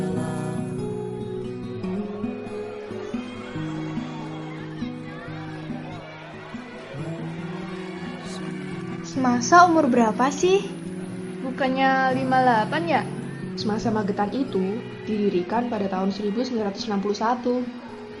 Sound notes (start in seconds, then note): 0.7 sounds of the crowd